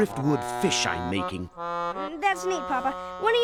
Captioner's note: panting